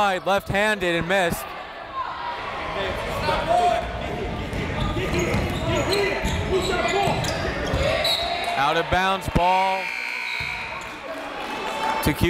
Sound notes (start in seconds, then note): 8.2 whistle; 9.8 buzzer